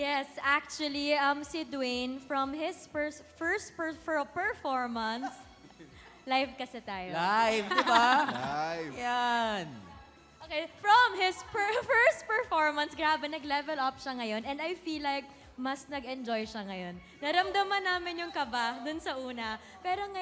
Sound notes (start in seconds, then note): 5.2 eugene, donny chuckle